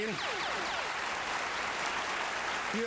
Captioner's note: applause